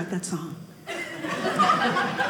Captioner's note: audience laughing